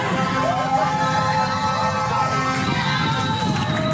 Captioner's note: crowd cheering